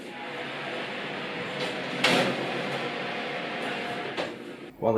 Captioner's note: oven roar